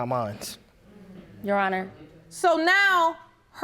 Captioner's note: audience groaning